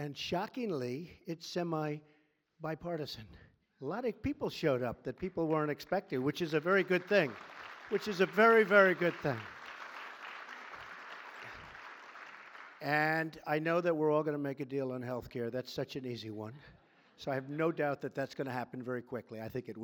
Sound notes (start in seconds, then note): 7.8 applause